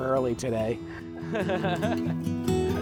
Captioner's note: chuckling